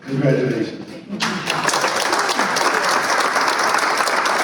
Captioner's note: applause